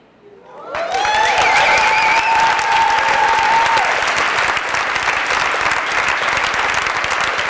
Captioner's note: applause